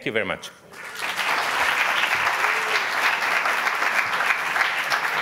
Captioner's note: audience applauding